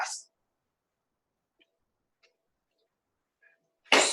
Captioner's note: silence